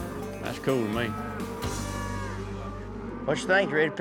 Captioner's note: mooing